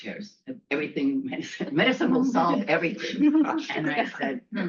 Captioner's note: laughter